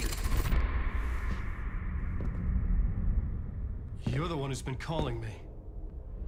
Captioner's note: gun firing